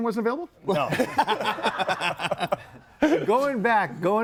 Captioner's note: group laughs